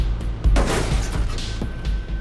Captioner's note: crash